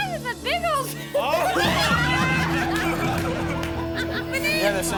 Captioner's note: family laughs